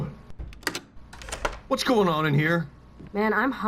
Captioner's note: door Opens